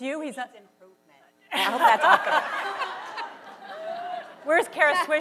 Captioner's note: laughter